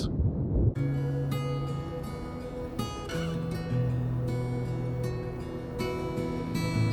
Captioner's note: gentle string music; breeze blowing